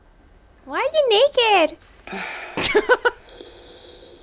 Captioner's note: chuckles